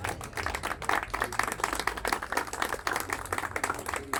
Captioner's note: applause